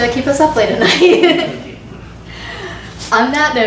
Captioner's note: and class laugh